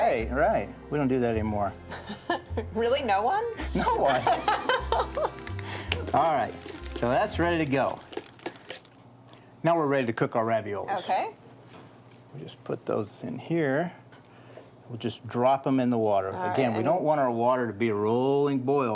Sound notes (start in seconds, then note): 3.6 chuckling; 3.6 laughing